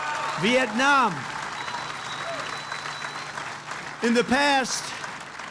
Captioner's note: applause